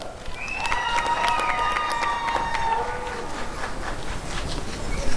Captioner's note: applause and cheering